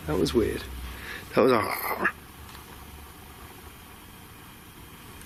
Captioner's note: imitates growl